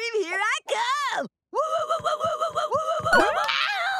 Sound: cheering

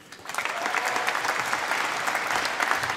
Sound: applause

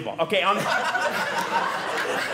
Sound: audience laughing

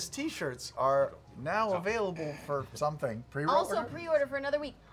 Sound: none

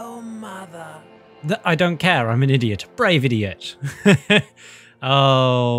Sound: laugh

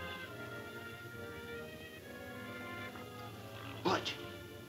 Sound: men snoring

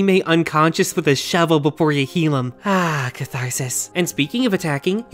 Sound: sigh

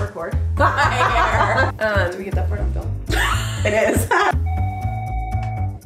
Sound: laughs

